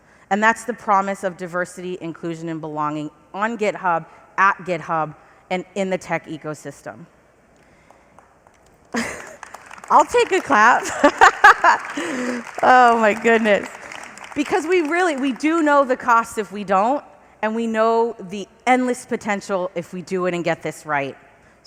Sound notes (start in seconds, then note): 9.0 laughing; 11.3 applause